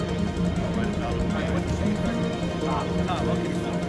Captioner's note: speaks faintly